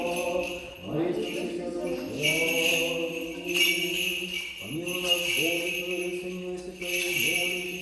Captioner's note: chanting in foreign language; soft music